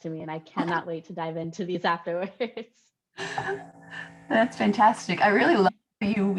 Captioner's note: laughter